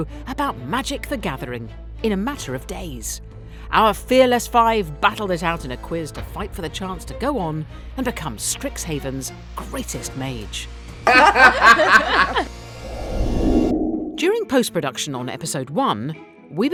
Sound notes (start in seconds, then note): 11.0 all laugh